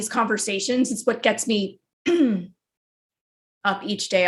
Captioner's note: clears throat